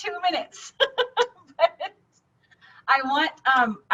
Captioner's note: laughing